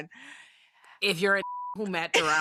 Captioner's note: beep